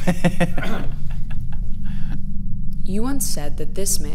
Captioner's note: laughs